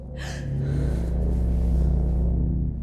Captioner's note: creepy music; Olivia gasps